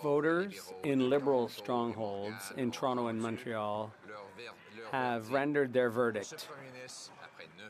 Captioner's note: speaking French